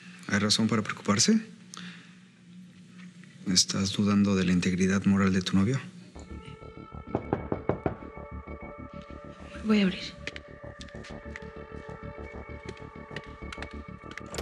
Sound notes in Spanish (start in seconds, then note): 7.0 Toques en la puerta